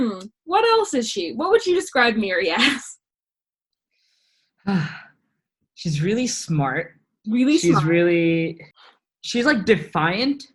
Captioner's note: sighs lovingly